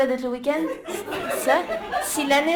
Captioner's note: laughter